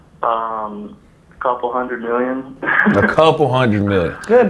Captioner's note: laughs